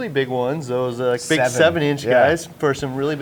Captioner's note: chuckles